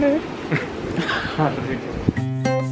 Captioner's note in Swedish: skratt